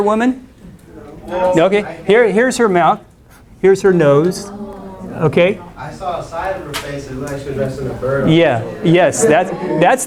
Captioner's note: "Ohh"s from students